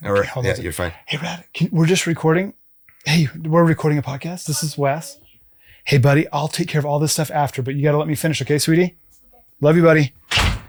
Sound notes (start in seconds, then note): 5.0 speaking faintly; 10.2 door thuds